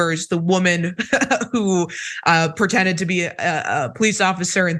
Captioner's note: laugh